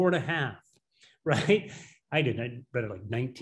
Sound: laughing

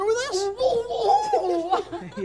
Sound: mocking

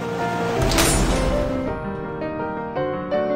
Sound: metal door slams shut

